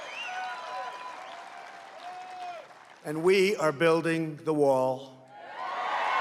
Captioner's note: applause; applause